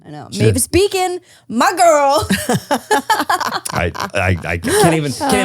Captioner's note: laugh